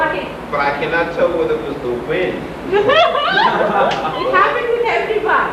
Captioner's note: laughter